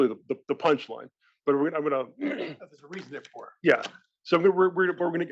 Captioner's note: cough